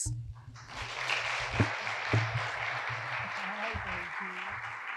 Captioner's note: audience applauding